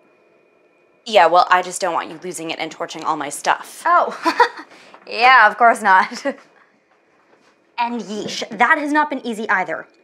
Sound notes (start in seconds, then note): 4.1 laughs sarcastically